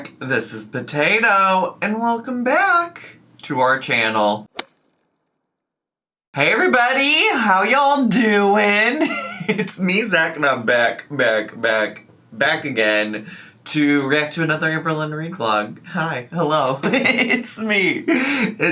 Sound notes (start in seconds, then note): 4.5 bat swing and hit; 8.9 laughs; 16.8 laughs